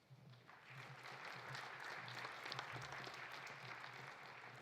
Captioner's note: audience applauding